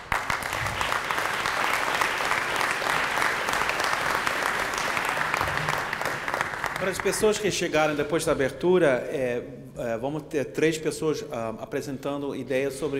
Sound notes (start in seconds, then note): 0.0 applause; 6.9 speaking portuguese